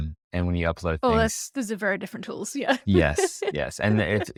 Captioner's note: laughs